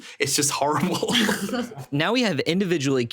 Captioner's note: chuckling